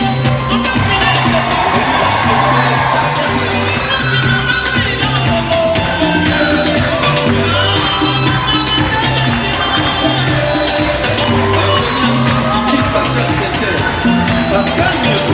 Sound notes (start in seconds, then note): 4.7 clapping rhythmically